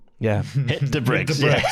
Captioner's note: chuckles